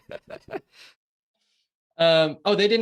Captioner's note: both laugh